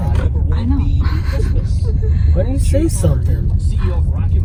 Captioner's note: giggle